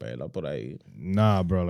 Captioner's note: speaking Foreign Language